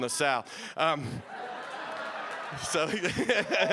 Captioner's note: audience laughing